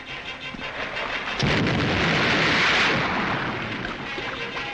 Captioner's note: powder explodes